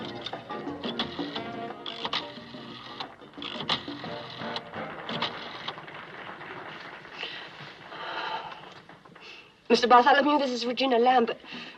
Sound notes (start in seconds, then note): 5.5 music ends, applause; 7.9 sighs